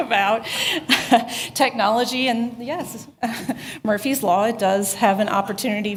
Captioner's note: laughter